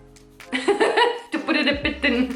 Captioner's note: laughing